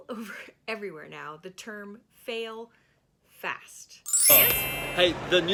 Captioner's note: chiming